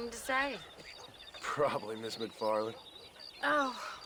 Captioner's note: laughing